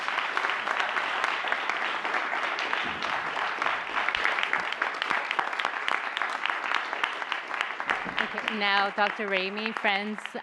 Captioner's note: applause